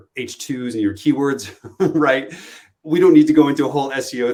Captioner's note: chuckles